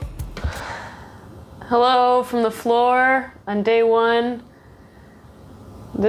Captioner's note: sighs